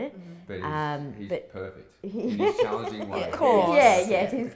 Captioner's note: laughs